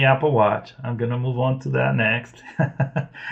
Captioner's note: laughs